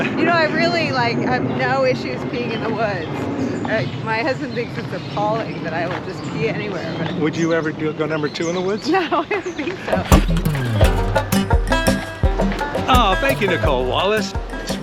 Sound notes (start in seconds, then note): 8.8 laughing; 9.8 banjo music